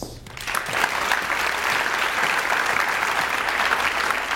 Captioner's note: audience applauds